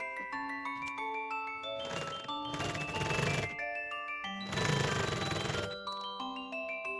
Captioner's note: zigzag sewing machine